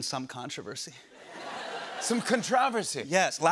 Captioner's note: laughter